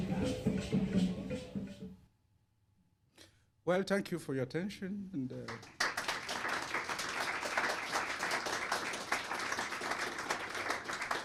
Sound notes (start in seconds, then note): 5.4 applause